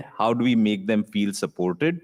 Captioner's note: none